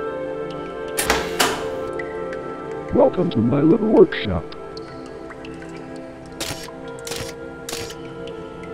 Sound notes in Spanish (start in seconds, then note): 6.4 Pasos animatrónicos